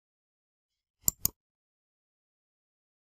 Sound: click

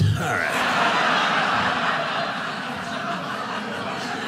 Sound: audience laughing

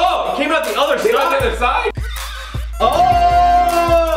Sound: struggled blowing

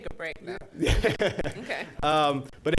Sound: laughs

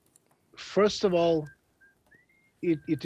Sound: whistling sound

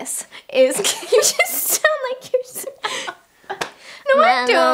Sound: laughs

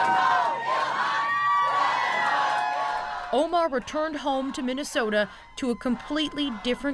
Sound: cheers and Applause

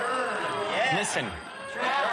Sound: audience boos

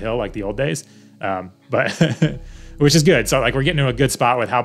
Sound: laughs

